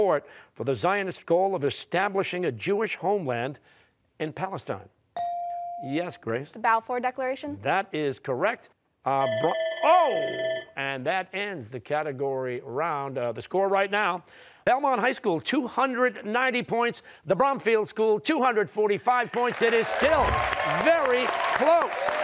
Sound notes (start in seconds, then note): 9.2 timer sounding